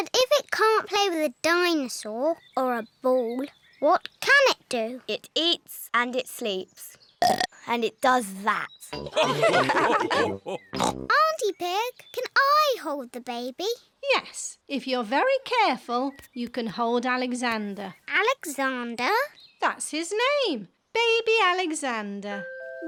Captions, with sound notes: But if it can't play with a dinosaur or a ball, what can it do? -It eats and it sleeps. -(BURPS) And it does that. -(ALL LAUGH) -Aunty Pig, can I hold the baby? Yes, if you're very careful, you can hold Alexander. -Alexander? -That's his name, Baby Alexander.